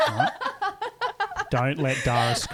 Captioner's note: laughing together